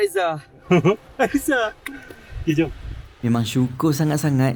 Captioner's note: laugh